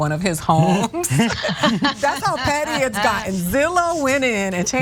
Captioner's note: laugh